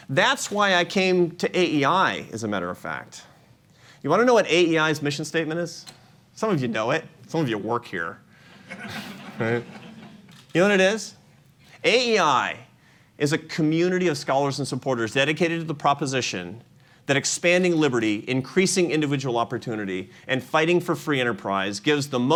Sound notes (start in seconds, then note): 8.6 laughter